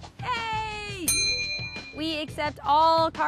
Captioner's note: dinging